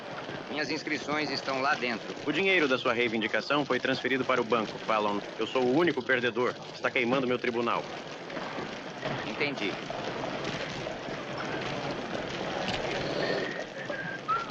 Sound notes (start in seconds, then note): 10.3 fire crackling